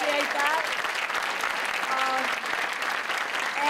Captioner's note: cheers and applause